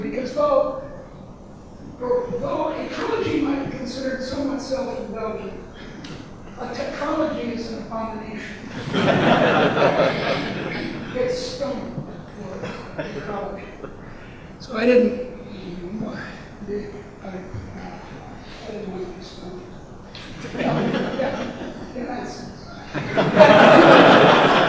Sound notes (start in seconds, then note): 8.6 audience laughing; 11.3 laughing drowns out speaker; 20.6 laughing drowns out speaker